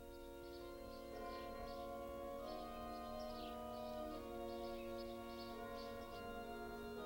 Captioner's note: bell tolling and church music